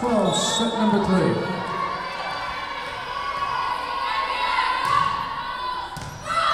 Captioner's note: whistle blowing